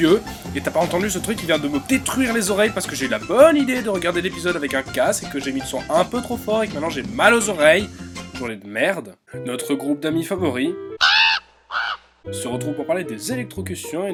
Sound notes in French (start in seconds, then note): 11.0 Croassement de corbeau